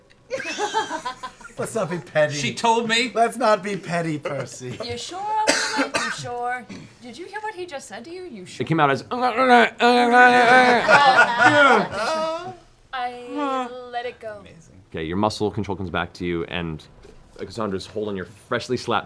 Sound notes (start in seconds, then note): 9.2 muffled angry sounds